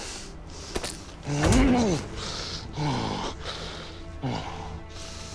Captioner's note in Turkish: Vurma ve İnleme Sesleri